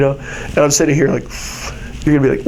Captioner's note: inhales